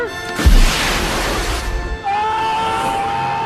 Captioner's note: rocket blasting; screaming